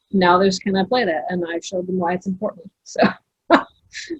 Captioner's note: laughs